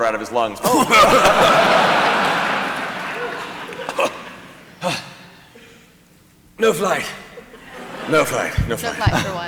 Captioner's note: coughing and panting